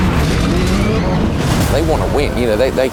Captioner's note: engines revving